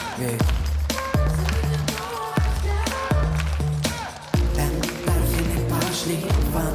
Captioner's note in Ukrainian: оплески